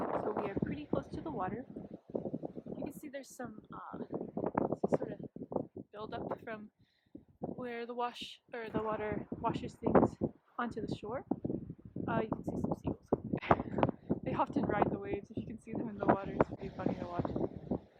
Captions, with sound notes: So we are pretty close to the water. You can see there's some buildup from where the water washes things onto the shore. You can see some seagulls over there. (laughs) They often ride the waves, you should see them in the water. It's pretty funny to watch them.